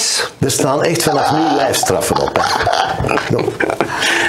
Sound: laughs

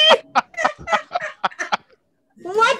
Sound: everyone laughs

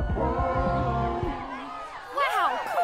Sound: crowd cheering

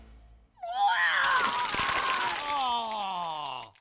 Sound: vomits

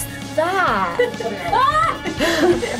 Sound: laughs; argh!

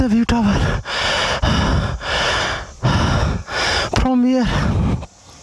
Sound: deep Breathing

